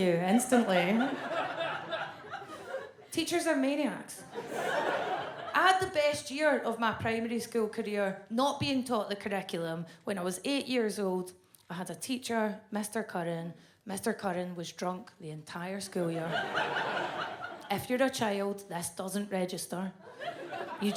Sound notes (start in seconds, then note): 16.2 audience laughs